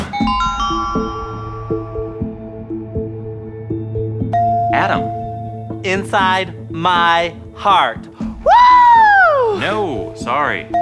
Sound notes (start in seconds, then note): 4.4 ding